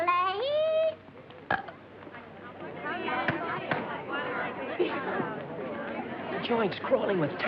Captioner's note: yodeling; burp